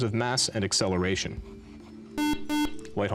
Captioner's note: beep